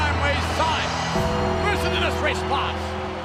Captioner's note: audience cheers; ominous music